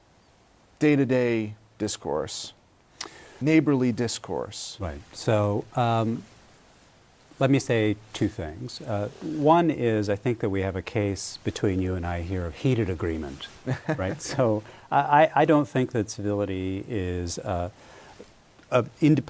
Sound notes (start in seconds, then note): 13.6 laughter